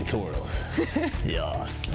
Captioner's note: laughs